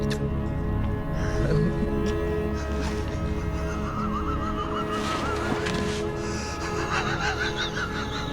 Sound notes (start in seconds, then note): 1.3 laughs